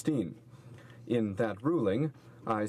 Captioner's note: speaking french